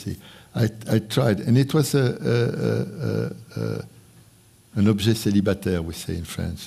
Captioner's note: speaking french